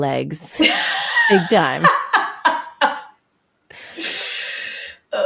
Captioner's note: laughing